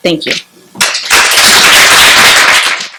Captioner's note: applause